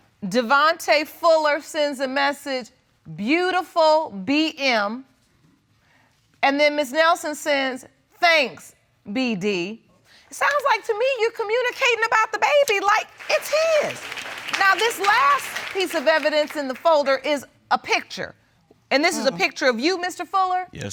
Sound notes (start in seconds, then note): 14.7 audience applauding